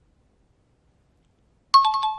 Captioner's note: time chime